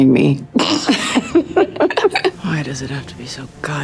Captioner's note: KiKi laughing